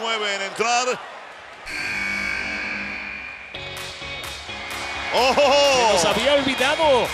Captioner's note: laugh